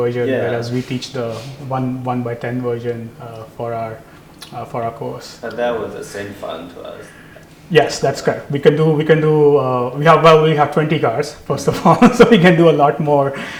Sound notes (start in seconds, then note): 11.6 laugh